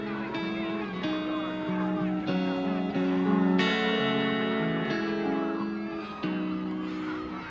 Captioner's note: police radio chatter